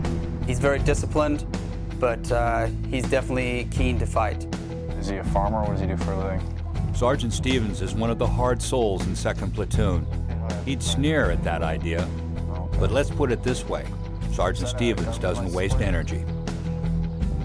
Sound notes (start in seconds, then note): 6.9 voiceover